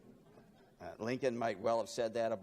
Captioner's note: laughing